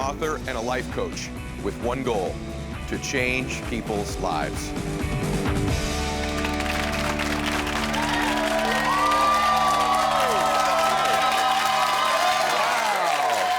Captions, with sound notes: and a life coach with one goal: to change people's lives. (applause) - Wow.